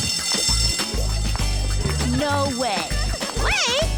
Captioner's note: pop music; bell ringing